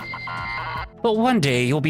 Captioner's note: alarm blares